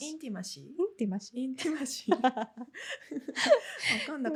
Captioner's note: laughs